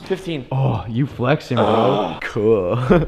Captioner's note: grunts